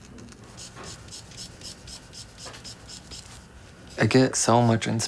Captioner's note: marker swishing